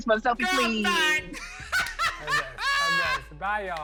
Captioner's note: laughs